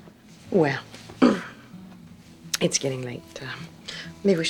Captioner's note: clears throat